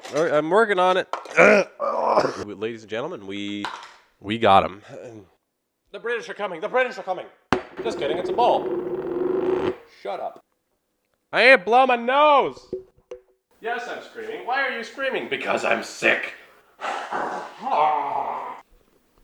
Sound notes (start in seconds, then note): 1.3 cough; 1.3 throat clearing; 7.8 bowl noises